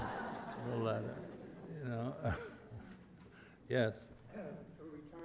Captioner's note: audience laughter